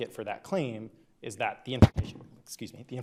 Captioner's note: microphone glitches